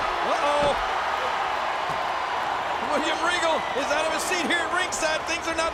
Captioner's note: applause